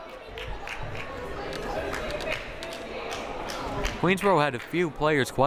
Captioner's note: crowd applauding